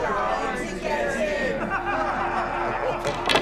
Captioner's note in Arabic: يضحك الجميع